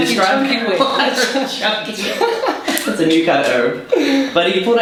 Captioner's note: laughs